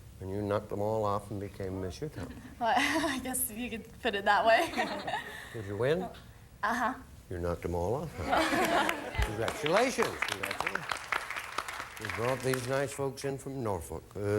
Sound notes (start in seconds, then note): 8.2 audience laughing